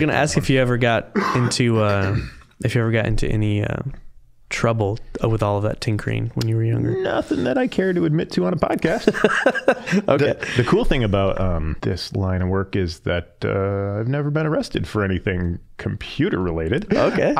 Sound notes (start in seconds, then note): 8.8 laughing